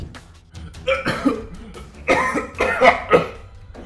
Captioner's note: coughing 😳😳😳